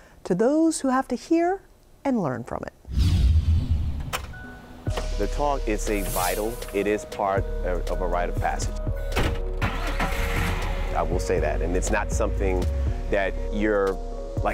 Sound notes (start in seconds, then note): 9.6 engine rumbling